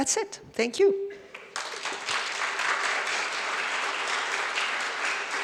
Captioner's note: audience applauds